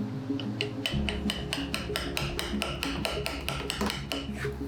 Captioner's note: light music; gentle tapping